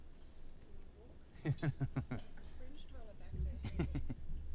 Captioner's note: laugh; laugh